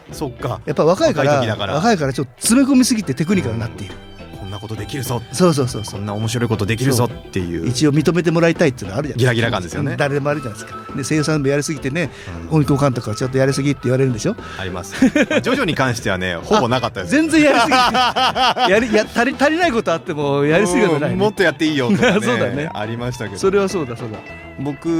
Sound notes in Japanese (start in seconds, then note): 17.2 笑い